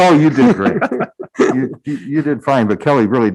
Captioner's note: group laughing